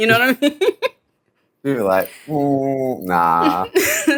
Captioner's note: chuckles